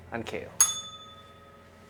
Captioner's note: bell rings